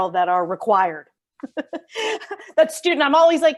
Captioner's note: laughs